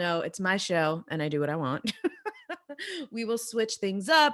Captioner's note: laughing